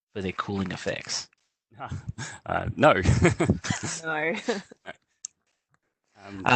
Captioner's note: chuckles